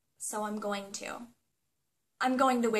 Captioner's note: pause